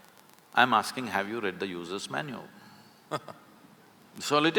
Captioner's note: Karan Johar laughs